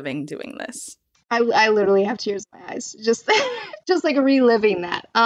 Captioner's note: laughs